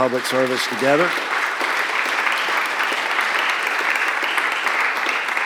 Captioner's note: applause